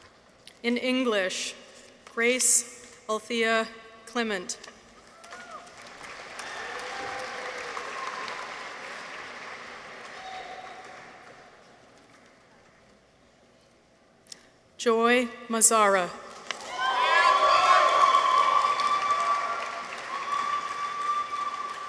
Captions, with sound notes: In English. Grace Althea Clement. -(people cheer) -(audience applauds) Joy Mazahreh. -(people cheer) -(audience applauds)